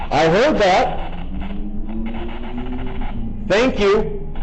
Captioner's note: static buzzing